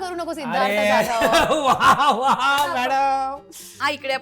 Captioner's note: claps